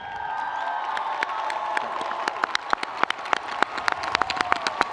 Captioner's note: audience applauding